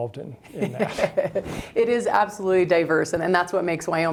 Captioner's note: laughs